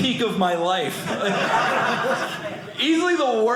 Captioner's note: audience laughing